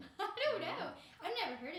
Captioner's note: laughing